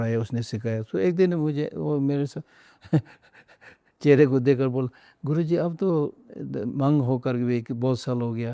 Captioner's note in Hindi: हंसी